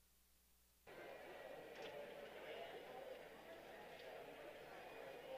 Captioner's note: background chatter